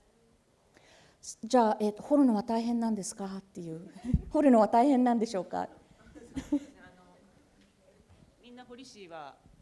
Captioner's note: speaking japanese